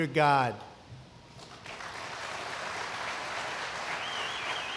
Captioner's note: applause